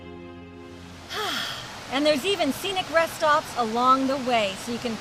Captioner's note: sighing